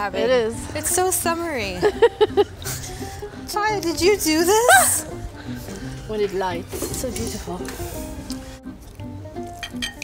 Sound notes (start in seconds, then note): 1.8 laughs; 4.9 laughs